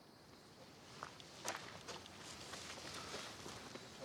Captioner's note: footsteps, insects chirping